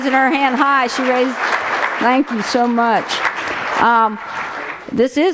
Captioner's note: applause